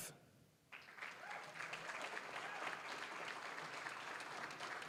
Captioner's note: applause, cheering; applause